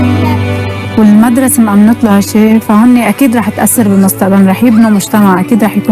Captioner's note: speaking foreign language